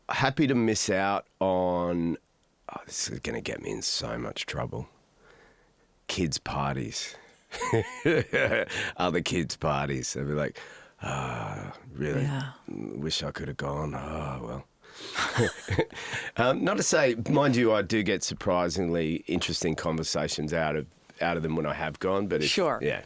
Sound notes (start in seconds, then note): 7.6 laughs; 15.1 laughs